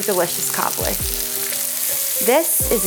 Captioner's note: butter sizzling